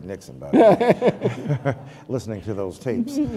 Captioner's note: laughter